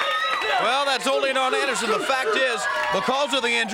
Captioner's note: crowd cheering